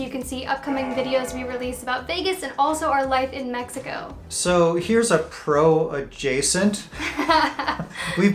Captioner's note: laughs